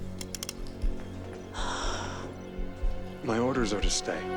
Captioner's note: Trousdale gasps sharply